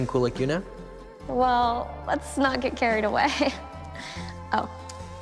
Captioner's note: chuckles